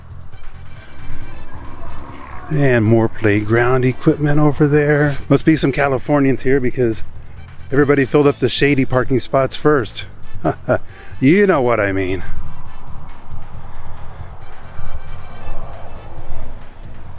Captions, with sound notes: And more playground equipment over there. Must be some Californians here because everybody filled up the shady parking spots first. (chuckles) You know what I mean.